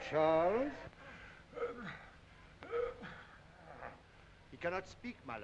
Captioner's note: Charles groaning